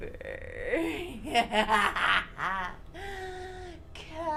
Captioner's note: laughing